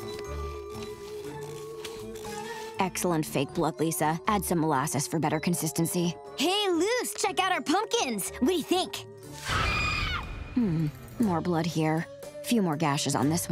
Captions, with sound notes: Excellent fake blood, Lisa. Add some molasses for better consistency. Hey, Luce, check out our pumpkins. We do ya think? [screaming] Hmm. More blood here. Few more gashes on this one.